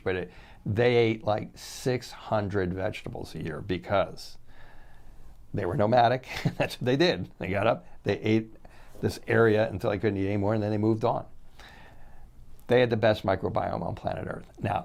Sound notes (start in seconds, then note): 6.2 chuckles